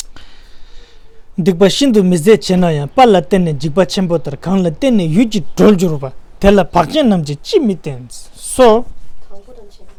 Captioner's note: tibetan